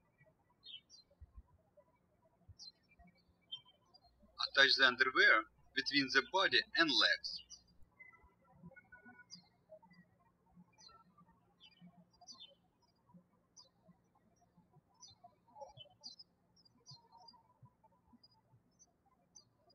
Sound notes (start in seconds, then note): 0.2 birds chirping; 8.4 birds chirping